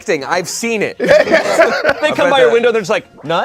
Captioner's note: group laughs